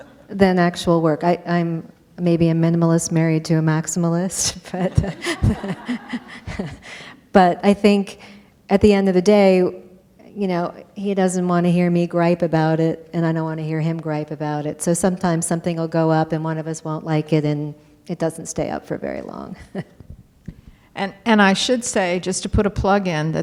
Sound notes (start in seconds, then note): 4.7 laughter